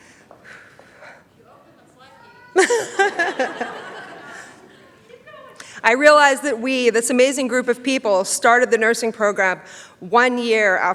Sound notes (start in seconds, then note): 2.2 laughs